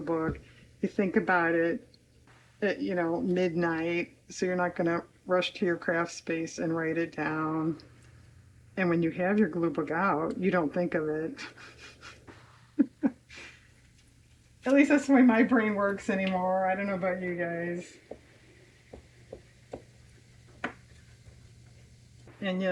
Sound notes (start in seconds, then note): 13.9 laughs